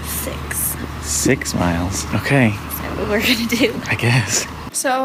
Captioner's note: laughing